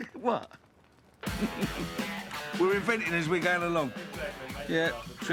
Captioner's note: chuckling